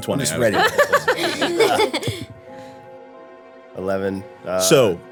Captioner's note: women laughing